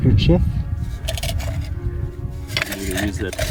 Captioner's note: can rattling